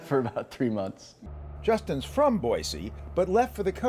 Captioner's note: laughter